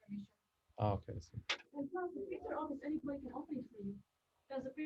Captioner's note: background discussion and noise